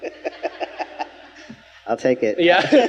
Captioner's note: speakers laughing